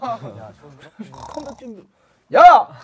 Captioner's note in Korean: 드르렁